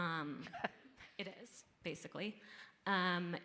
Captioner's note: audience member laughing